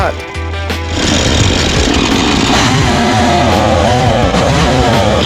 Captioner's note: chainsaw whirring